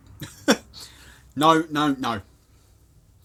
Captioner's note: laughing